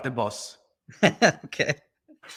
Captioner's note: laughs